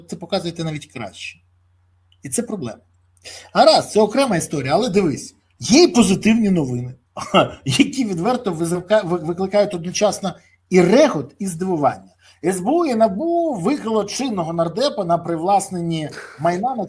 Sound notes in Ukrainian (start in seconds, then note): 7.2 сміх